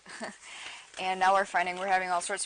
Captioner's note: laughs